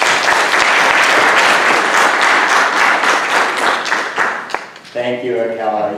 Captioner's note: audience applauding